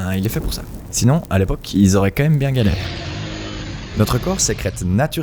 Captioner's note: roar